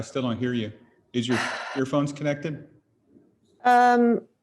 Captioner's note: sighs